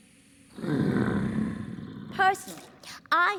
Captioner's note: groans